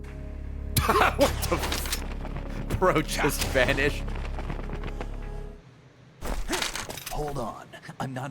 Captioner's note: laughs